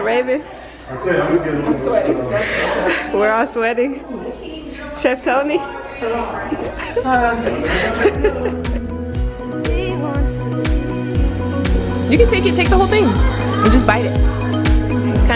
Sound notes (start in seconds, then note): 1.5 chattering; 6.0 laughing